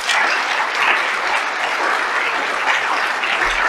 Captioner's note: audience applauds